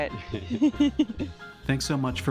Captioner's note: laughter